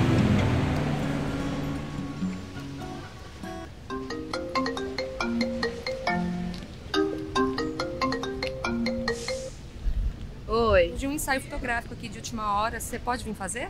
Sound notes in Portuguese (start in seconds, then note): 3.9 Celular tocando